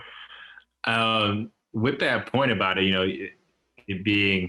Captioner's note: laughs